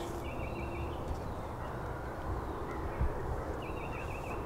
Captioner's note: birds chirping